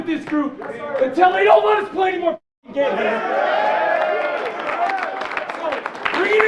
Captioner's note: cheers and applause